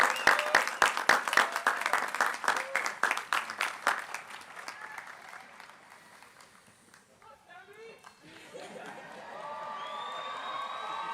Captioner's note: applause